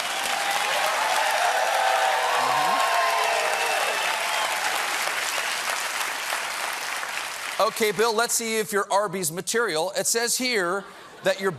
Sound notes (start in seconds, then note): 0.0 cheers and applause